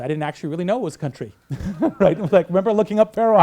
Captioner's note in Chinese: 大笑